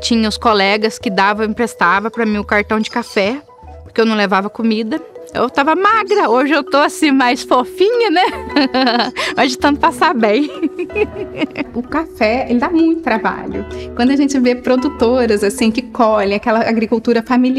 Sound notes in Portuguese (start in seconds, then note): 8.2 Risos